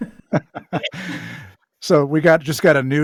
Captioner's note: laughs